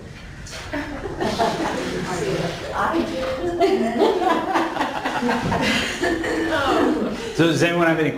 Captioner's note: laughing